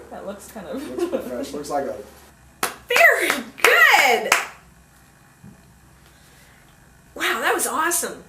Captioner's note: clap, two thumbs up